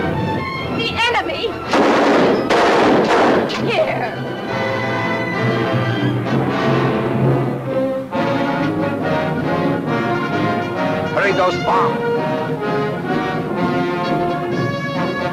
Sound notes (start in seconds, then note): 1.6 gun firing; 4.5 dramatic music; 7.9 suspenseful music